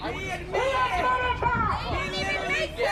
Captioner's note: muffled shouting